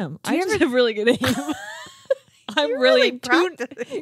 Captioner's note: laughing